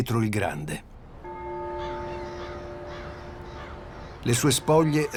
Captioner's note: strike of a bell